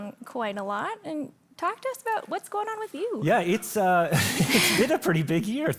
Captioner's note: laughing